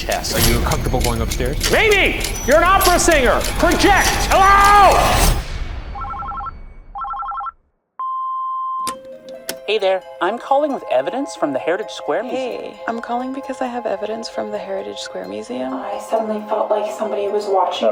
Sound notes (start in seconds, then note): 6.9 phone ringing; 8.7 eerie music